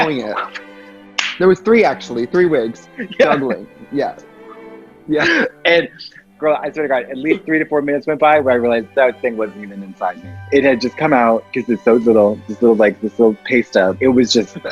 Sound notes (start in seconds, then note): 2.6 laughs; 4.2 dramatic classical music